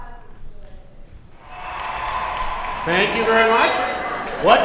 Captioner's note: cheering; dinging